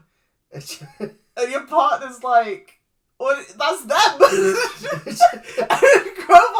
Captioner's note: chuckles; laughs